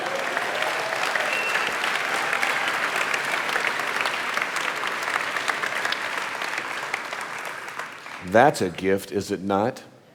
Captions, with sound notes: (audience applauding) That's a gift, is it not?